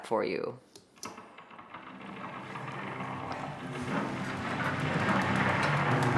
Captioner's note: tree rumbling; rhythmic cello music